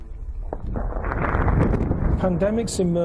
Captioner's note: explosions